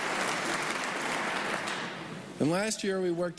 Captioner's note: applause